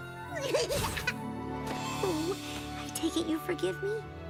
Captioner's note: laugughs